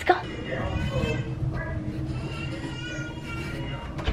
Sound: baby crying

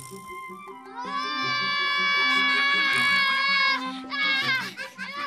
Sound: girl laughs; both shout

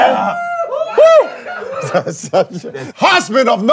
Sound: the crowd is cheering

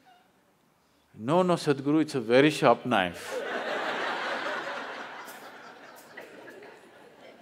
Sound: laughter

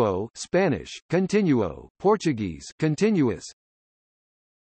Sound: Spanish; Spanish

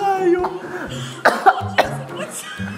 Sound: is coughing

